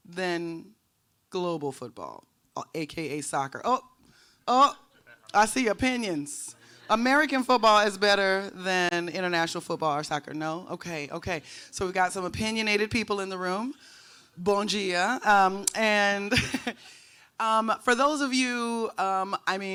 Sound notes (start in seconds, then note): 14.0 speaking in foreign language